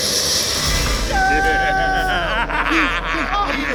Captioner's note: laughing